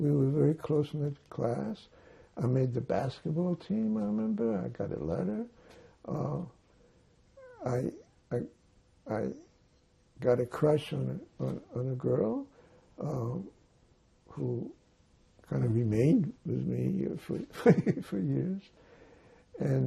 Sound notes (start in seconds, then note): 17.4 laughing